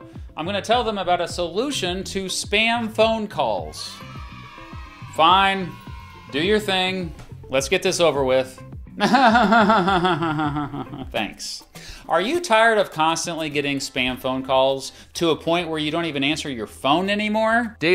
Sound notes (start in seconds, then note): 9.0 fake laugh